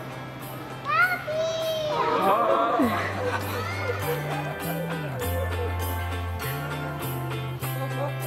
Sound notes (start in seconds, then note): 3.8 group laughing